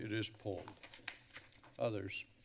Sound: rustling sounds

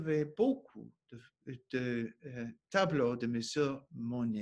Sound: speaking French

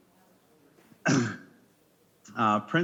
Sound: clears throat

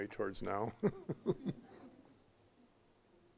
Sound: all chuckling

